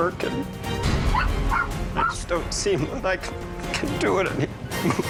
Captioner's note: dog barking; sniffles